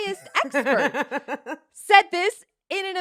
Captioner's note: laughs